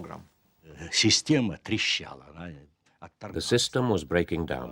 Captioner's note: speaking Russian